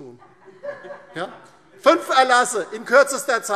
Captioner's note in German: Heiterkeit DIE LINKE und SPD